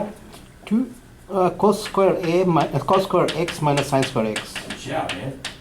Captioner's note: voiceover